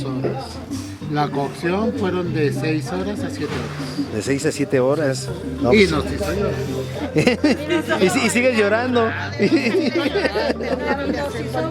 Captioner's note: laughs